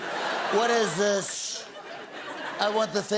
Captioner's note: As Trump